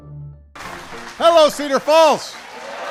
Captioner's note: applause